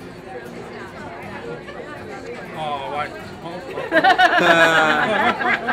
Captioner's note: laughter